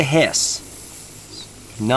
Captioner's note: hissing